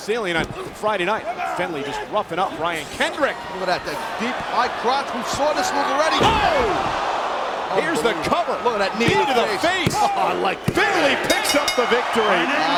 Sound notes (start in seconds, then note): 6.3 crowd gasps